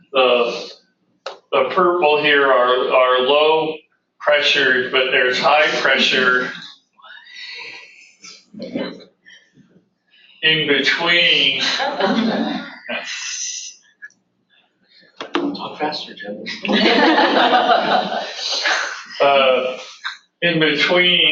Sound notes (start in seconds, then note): 11.4 audience laughter; 16.6 audience laughter